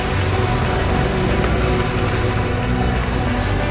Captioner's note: engine Revving